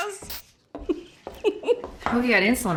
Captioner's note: giggling